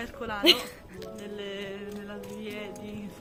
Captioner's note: laughter